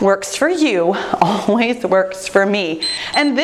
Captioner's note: timer beeps